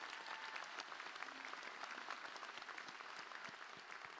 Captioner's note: applause